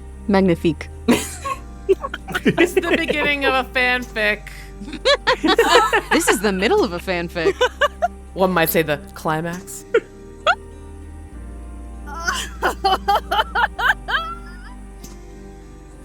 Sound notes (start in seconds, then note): 4.9 laughs; 10.2 laughs